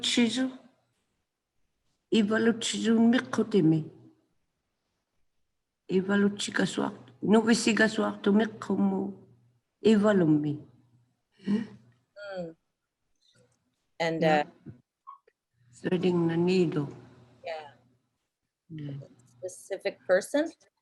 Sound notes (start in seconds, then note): 2.1 speaking in Inuktituk